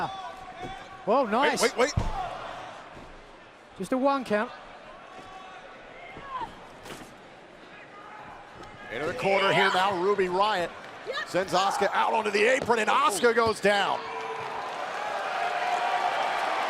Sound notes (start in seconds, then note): 6.0 crowd chatter